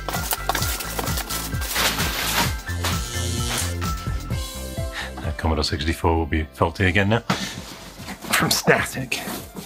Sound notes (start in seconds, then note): 0.1 upbeat music; 2.1 buzzing sound